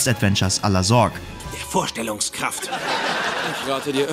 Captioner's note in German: Gelächter